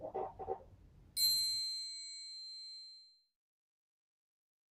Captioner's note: bell dings